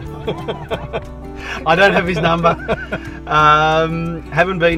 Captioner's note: laughter